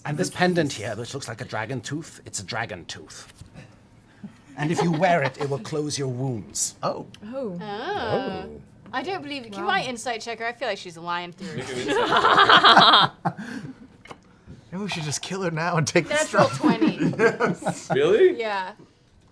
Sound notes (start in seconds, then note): 11.4 laughter